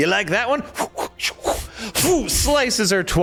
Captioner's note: whooshing noises